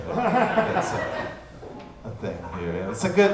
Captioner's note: audience laughing